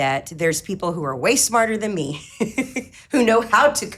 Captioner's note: laughs